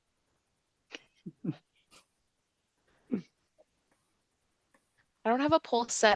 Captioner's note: chuckles softly